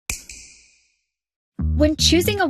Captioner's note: snap